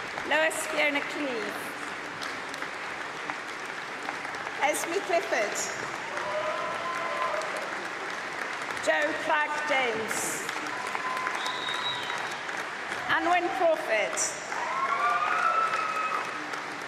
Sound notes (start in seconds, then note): 3.0 applause; 5.4 cheering; 11.3 applause